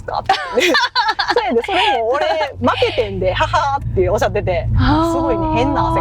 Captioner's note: ha ha